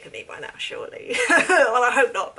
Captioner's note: laughs